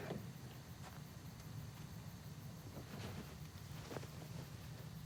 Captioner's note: trunk clattering; insects chirping